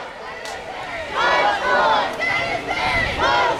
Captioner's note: crowd